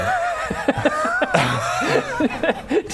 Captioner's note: ungrateful laughter